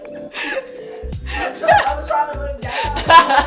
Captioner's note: laughing